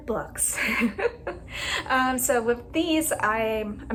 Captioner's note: laughter